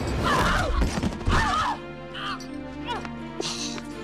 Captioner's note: shouting